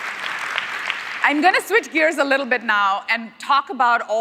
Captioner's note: cheers; applause